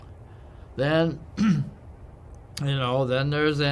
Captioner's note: cough